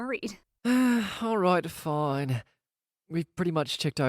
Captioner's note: sighs